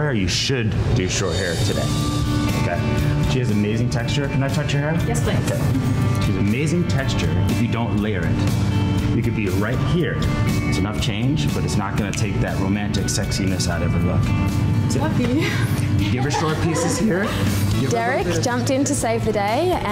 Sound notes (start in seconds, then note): 1.9 bright music; 5.4 chuckles; 15.4 laughing